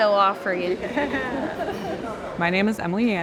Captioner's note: laughing